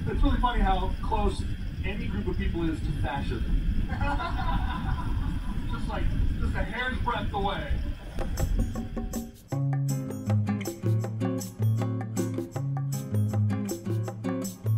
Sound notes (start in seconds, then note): 3.9 crowd laughter; 8.2 fun calm guitar music